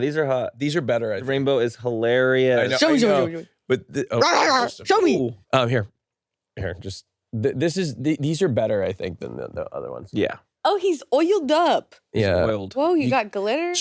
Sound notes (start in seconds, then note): 4.8 barks